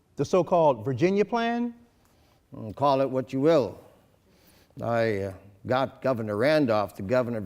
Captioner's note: none